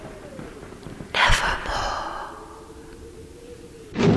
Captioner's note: whispers